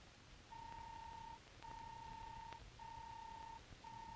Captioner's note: robot beeping